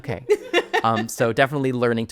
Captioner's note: laughing